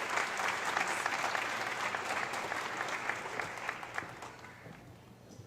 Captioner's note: audience applause